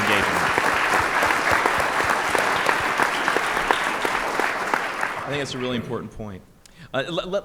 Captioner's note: applause